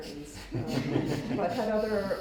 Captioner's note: audience laughs